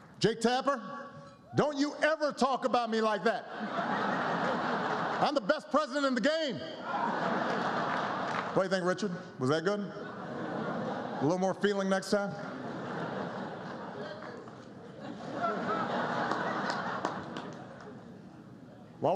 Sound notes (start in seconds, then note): 3.3 laughter; 9.8 laughter